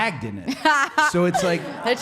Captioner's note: Liv laughing